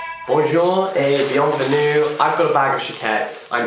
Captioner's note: speaks in foreign language